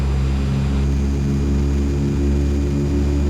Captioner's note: engine revs